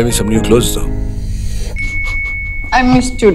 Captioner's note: Chuckles